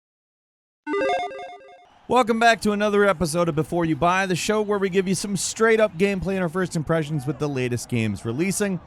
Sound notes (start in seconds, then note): 0.9 logo beeps